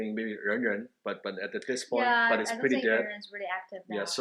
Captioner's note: speaks softly